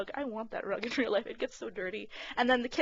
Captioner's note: laughing